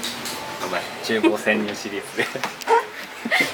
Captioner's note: laughs